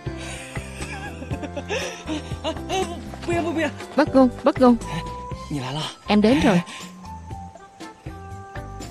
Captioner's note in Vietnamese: Tiếng cười